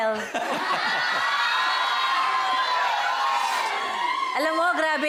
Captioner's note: audience giggles, cheers; giggles